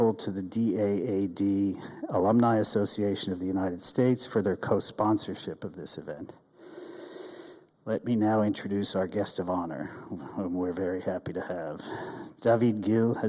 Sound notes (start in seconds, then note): 10.0 chuckles